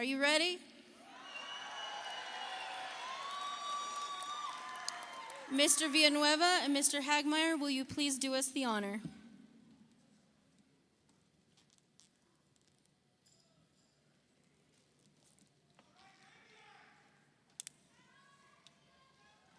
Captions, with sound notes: Graduates, are you ready? (audience applauds) (audience cheers) Mr. Villanueva and Mr. Hagmaier, will you please do us the honor?